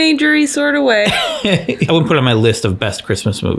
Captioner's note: laughs